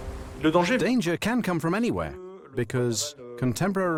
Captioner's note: voiceover